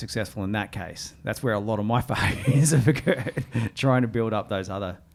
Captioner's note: laughs